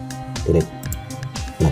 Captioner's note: click